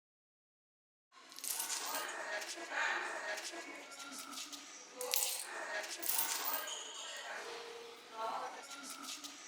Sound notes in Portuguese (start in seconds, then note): 1.3 vozerio ao fundo; 6.0 moedas caem no chão